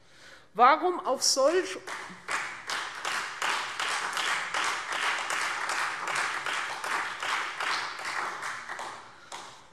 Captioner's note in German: Beifall Freie Demokraten und vereinzelt SPD